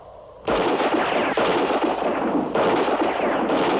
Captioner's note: gunshots